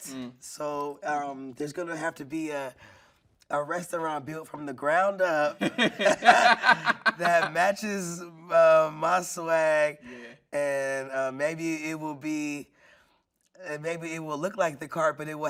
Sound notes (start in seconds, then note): 5.6 everyone laughing